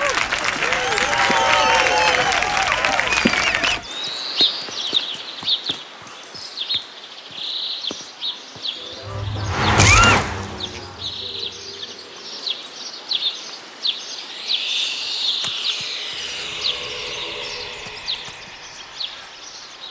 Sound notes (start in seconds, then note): 4.4 birds chirping; 9.7 screaming